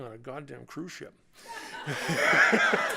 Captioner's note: laughter